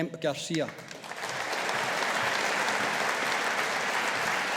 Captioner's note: audience applauding